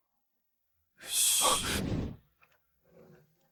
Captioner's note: sigh